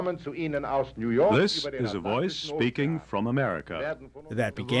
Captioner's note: through translator